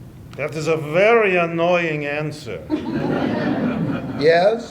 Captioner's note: laughter